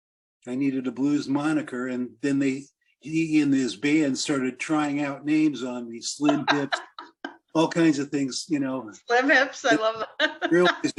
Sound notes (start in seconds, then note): 9.5 laughs